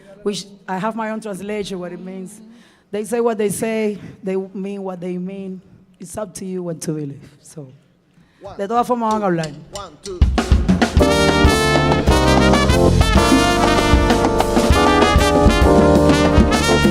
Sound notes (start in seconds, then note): 0.0 speaking in Spanish; 8.4 speaking in Spanish; 10.9 bright music